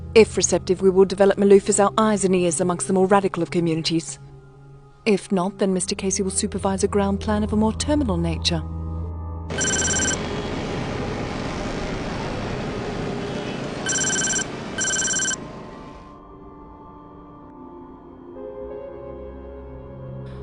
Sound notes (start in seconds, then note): 9.5 traffic rumbling quietly; 15.4 melodic haunting music